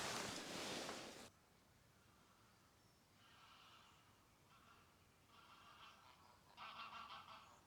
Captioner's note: birdsounds during testdrive